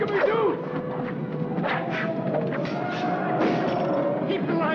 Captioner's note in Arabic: موسيقى درامية; أصوات الأسلحة